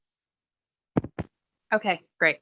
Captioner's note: mic thuds